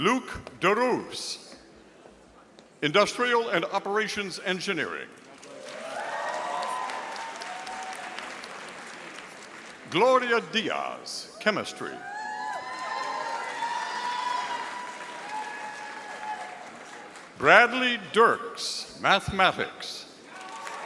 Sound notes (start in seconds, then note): 5.3 audience applauding; 12.2 audience applauding